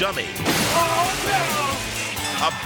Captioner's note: car crashing